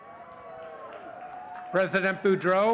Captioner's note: audience cheering and clapping